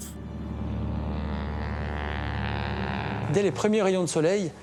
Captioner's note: engines rumbling